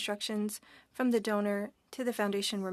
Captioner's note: speaking French